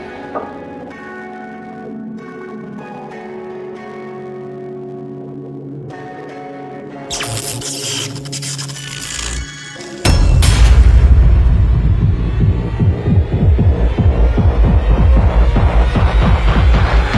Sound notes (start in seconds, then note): 7.1 bulbs buzzing